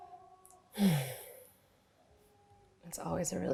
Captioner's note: sighs loudly